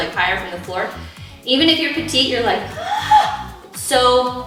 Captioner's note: gasps